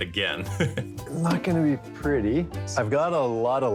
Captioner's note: chuckles